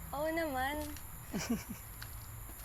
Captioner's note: Joaquin Laughs